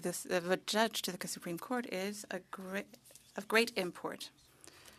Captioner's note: speaking French